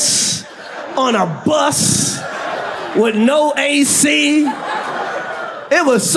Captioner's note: audience laughs